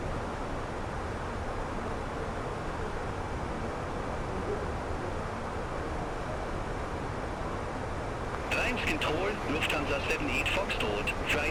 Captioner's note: radio chatter